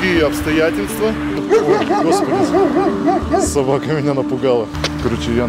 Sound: barking dog

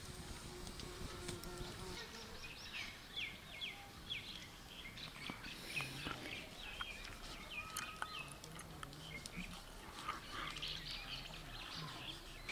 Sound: birds singing

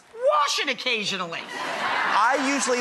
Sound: audience laughing and clapping

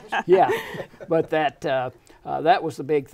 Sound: laughing

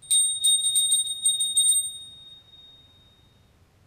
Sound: bell rings

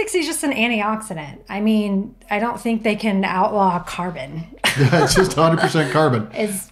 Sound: laughing

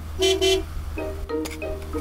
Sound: honks horn

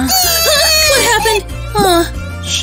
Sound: crying

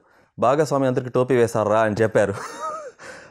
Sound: laughs

